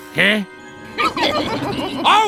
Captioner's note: sinister closed mouth chuckle